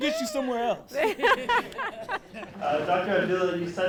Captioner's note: all laughing